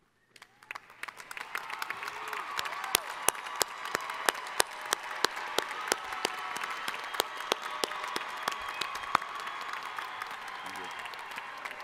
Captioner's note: applause